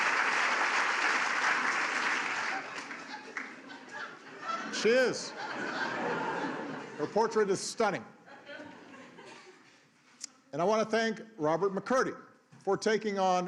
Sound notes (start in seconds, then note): 0.0 applause